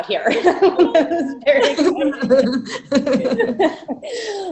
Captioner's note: laughter